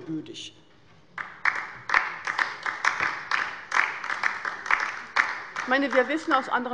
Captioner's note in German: Beifall bei der LINKEN